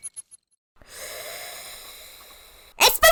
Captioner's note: inhale